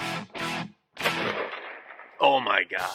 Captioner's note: gunshot